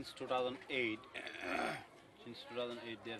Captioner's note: clears throat